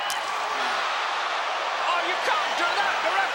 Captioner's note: crowd chattering